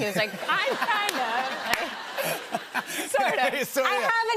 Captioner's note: laughter